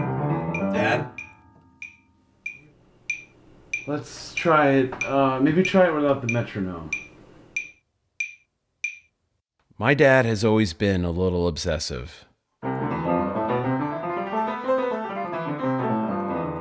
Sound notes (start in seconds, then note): 0.0 piano stops; 7.5 metronome stops; 12.6 piano scales